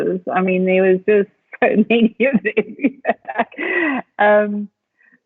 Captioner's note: laughs